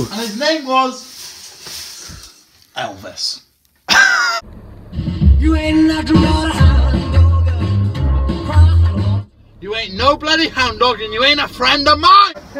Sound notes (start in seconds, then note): 3.8 laughs